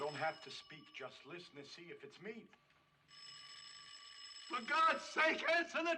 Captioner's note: ringing Continues